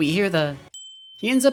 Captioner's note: windchimes